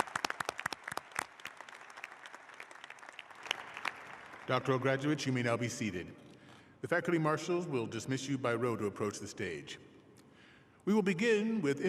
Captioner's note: applause